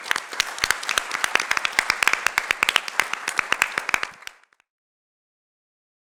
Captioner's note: applause